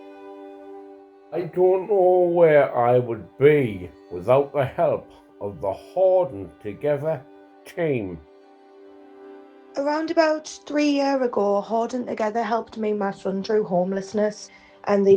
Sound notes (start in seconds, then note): 8.7 male Voice